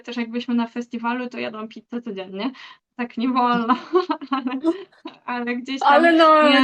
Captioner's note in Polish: śmiech